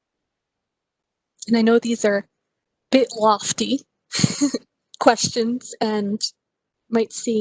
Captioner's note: laugh